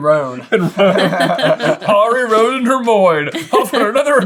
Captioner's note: laughter